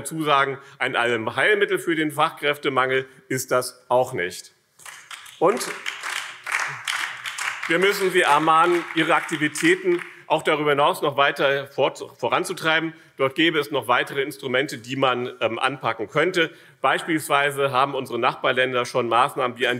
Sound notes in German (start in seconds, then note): 4.8 Beifall BÜNDNIS 90/DIE GRÜNEN